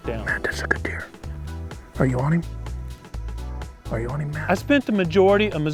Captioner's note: whispering